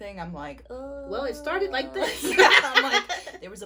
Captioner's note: laughter